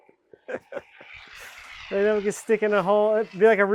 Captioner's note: speaker laughing; foam spraying